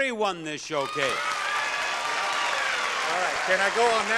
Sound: audience cheering and clapping

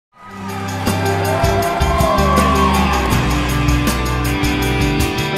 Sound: crowd cheering; introduction music

